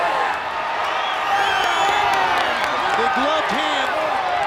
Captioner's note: crowd cheers